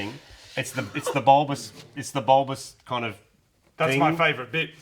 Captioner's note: laughing